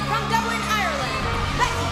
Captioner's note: cheers & applause